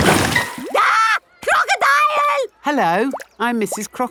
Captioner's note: screams